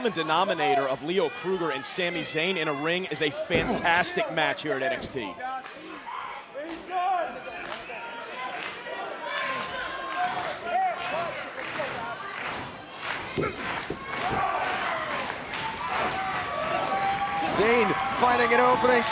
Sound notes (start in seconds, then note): 5.5 crowd cheering